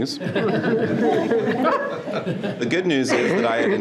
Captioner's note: participants laughing